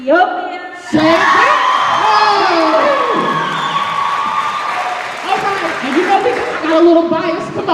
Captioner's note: cheers and applause